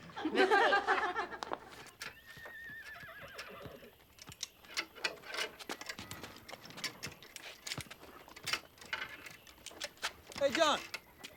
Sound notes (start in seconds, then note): 0.0 all laughing; 2.0 horse whinnies